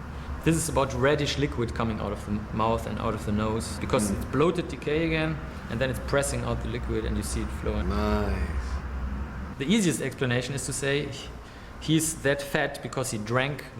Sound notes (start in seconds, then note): 7.9 Anthony sarcastically